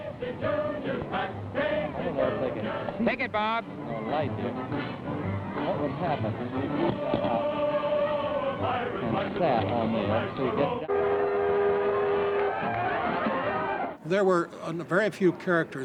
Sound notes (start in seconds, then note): 10.8 horn blows